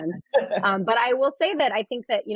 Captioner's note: laughs